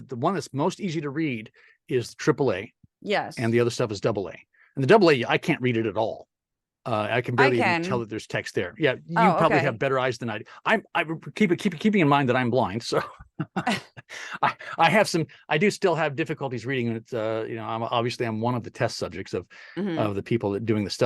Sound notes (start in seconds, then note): 12.8 laugh